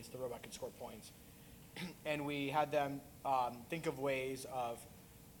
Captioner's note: cough